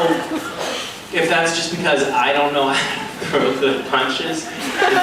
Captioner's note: laughing